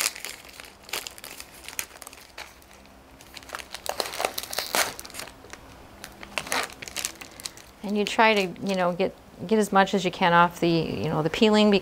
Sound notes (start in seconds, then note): 1.7 wrapper crackling